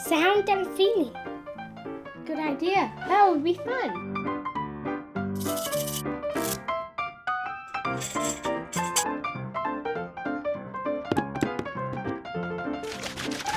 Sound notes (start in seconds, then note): 5.7 rattle shakes; 11.2 drum beating